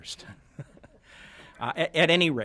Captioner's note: laughter